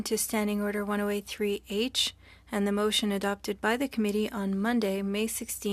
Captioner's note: speaking French